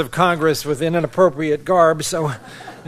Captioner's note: laughter